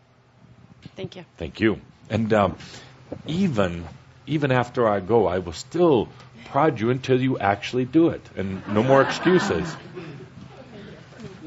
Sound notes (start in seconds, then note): 8.6 laughter